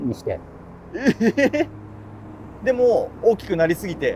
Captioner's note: laughing